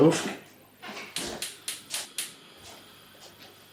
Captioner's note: igniter clickin